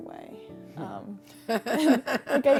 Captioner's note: laughing